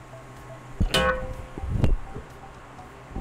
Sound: metal clang sound

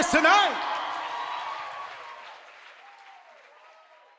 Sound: all cheering

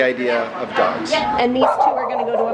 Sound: dog barking

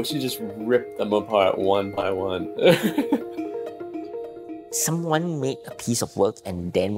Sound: laughs

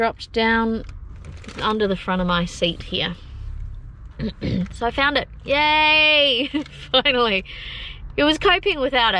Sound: laughing

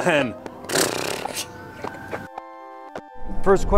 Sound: siren wails in distance; blows raspberry

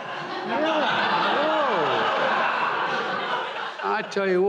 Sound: laughter

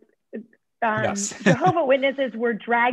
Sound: laughter

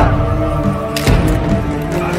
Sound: camera sound

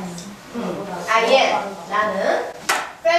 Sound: speaking foreign language

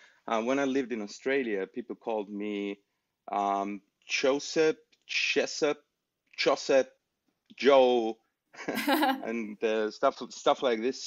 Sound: laugher

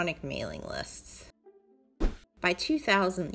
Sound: email sent notification whoosh

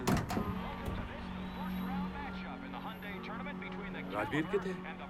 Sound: radio

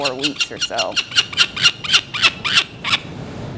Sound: squawking

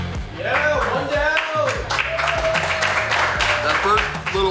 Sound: cheering & Clapping

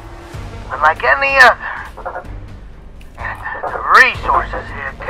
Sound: bird sounds

